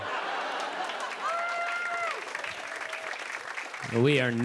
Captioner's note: cheers and applause